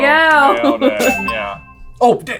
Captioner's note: all laughing; bell dings